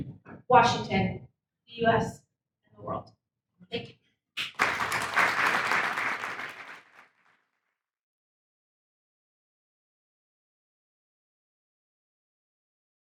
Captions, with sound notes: Washington, the US, and the world, thank you. (audience applauds)